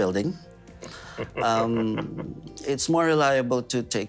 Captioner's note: chuckling